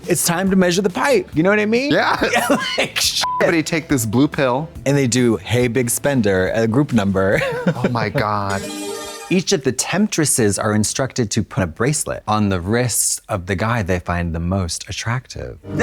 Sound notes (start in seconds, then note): 3.2 beep; 8.5 bright chime